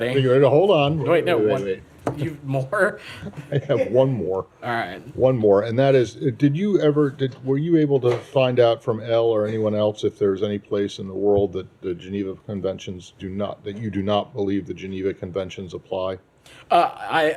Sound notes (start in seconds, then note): 3.2 laughter